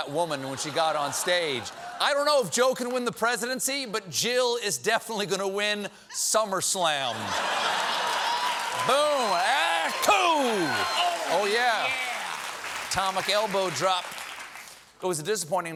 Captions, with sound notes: GOT ON STAGE. I DON'T KNOW IF JOE CAN WIN THE PRESIDENCY, BUT JILL IS DEFINITELY GOING TO WIN SUMMER SLAM. ( LAUGHTER ) ( APPLAUSE ) BOOM! OH, YEAH. ATOMIC ELBORO-DROP.